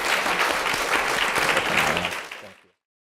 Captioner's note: clapping